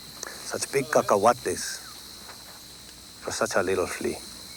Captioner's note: speaks Spanish